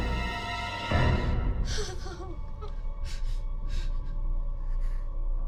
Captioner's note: sobbing